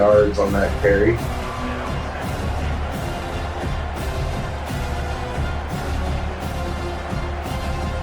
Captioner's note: crowd Noises